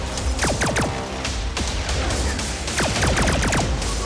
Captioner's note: lasers firing